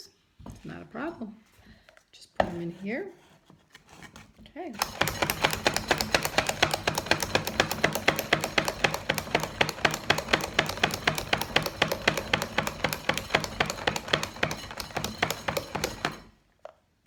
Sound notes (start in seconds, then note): 4.7 chopping sound